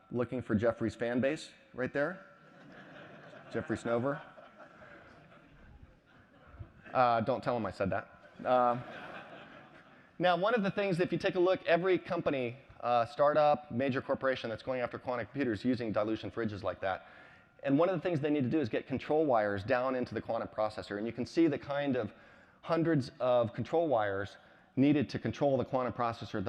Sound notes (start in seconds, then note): 5.3 laughter